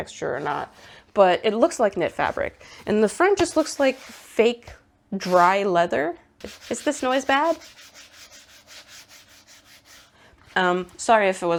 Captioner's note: swipey noises on a dry rough surface